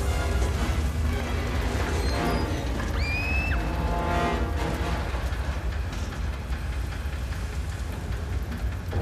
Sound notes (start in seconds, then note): 1.8 shrieks